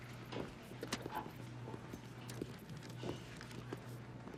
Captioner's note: footsteps pounding